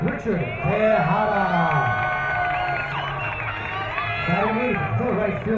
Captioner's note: crowd cheering